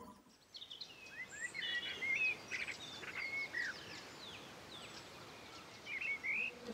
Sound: birds chirping

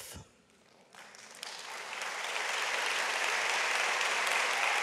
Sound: audience applauds

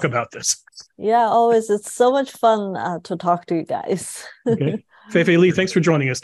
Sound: laugh

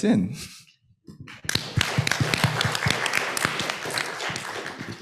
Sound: applause

